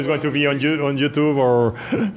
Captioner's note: laughs